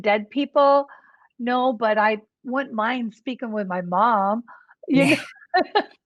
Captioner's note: laughs